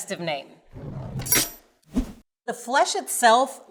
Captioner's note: knife chops